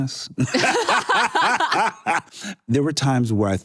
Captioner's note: laughter